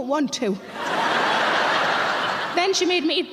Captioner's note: audience laughing